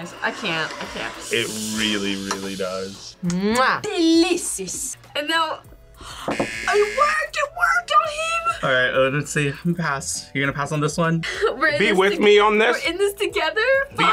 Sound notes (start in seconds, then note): 5.9 gasps